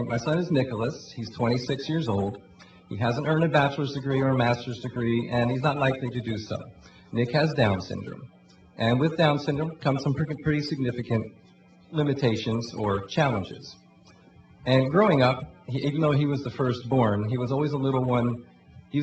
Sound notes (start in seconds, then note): none